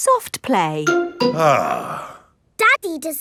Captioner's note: sighs